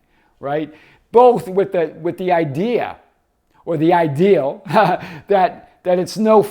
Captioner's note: laughs